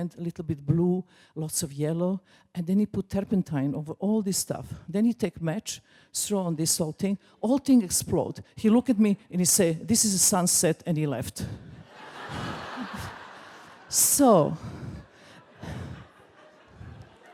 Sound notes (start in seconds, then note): 11.8 crowd laughing